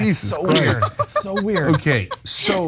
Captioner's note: laugh